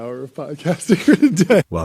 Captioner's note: laughs